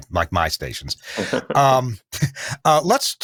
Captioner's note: laughs